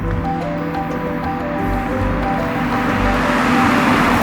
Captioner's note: relaxing music continues; car droning